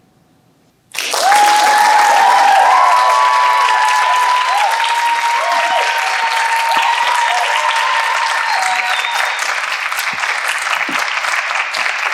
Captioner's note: applause